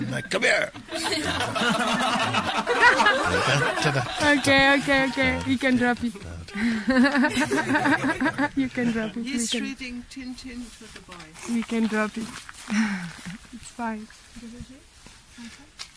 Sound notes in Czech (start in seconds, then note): 6.6 smích